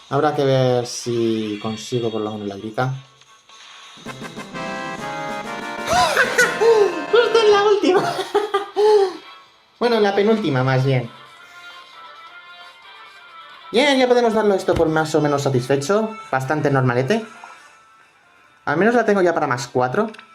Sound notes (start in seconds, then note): 5.8 laughs